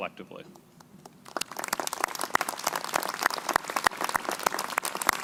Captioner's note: crowd applauding